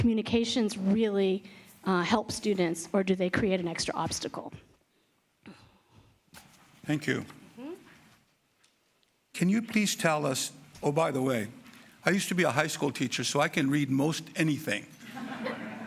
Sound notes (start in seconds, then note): 12.0 laughter